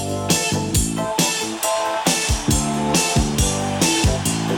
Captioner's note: upbeat music; audience cheering